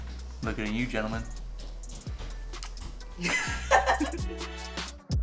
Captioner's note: smooches